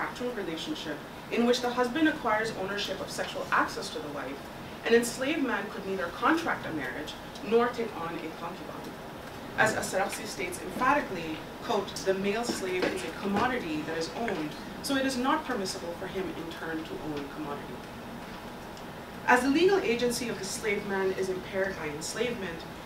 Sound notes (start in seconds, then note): 8.8 Arabic